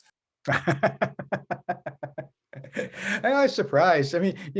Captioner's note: laughing